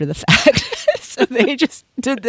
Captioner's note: both laugh